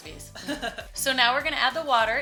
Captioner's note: laughing